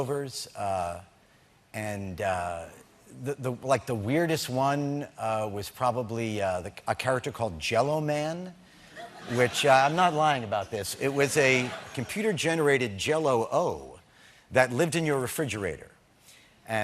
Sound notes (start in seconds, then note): 8.9 laughter